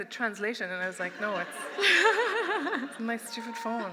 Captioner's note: laughter